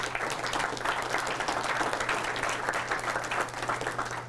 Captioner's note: audience applause